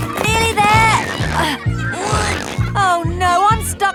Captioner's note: grunting